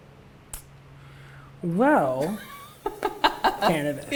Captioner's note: laughs